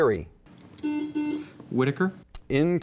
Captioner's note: buzzing